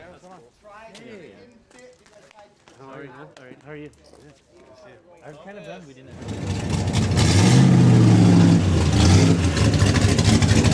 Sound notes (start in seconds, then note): 4.9 party sounds; 6.1 engine running noisily